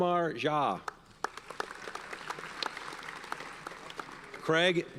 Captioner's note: audience applauds